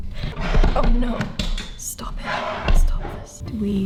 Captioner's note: chaotic clattering